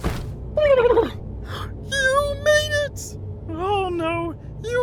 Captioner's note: gasp